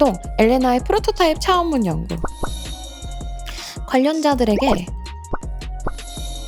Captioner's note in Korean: 콧방귀